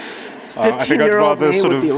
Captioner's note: laughing